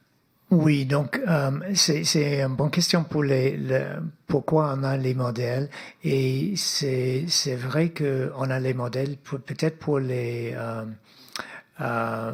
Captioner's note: speaking French